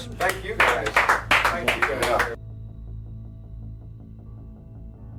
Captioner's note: crowd applauds